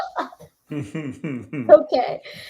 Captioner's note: laughs